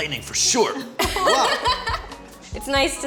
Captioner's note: laughing